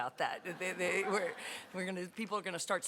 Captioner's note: laughter